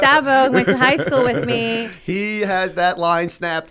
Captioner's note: laughter